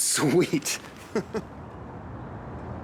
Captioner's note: laughs